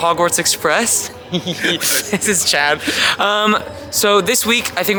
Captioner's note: chuckles